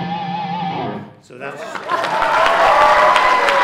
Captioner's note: cheers and applause